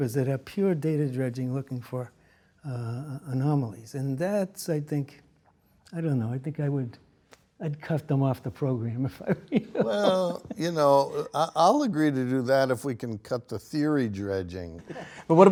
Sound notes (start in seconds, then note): 9.2 chuckling